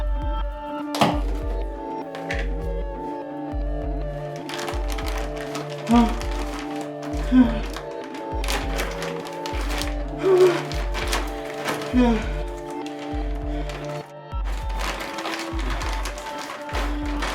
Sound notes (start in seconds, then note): 7.2 gasps